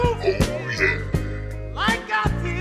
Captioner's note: verzerrt